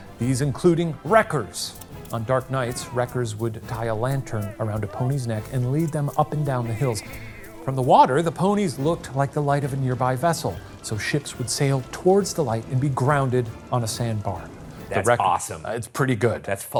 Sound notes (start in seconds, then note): 1.6 projector clicking; 2.4 wreckers hollering